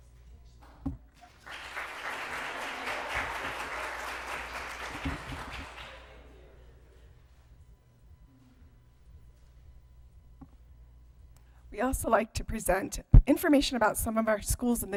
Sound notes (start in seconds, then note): 1.2 applause